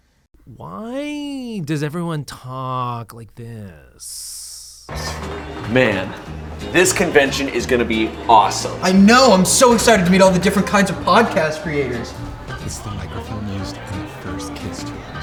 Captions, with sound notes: Why? Does everyone talk like this? ( in a voice constantly changing tone) Man this convention is going to be awesome. I know I'm so excited to meet all the different kinds of podcast creators (low voice)